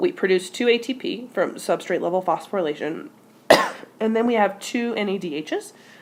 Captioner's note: cough